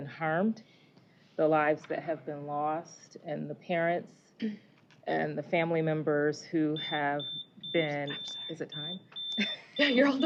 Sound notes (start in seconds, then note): 2.7 beeping; 5.9 laughter